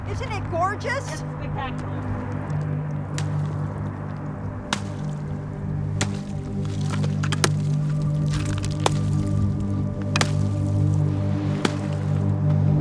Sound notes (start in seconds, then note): 2.0 ice cracking; 3.4 gentle music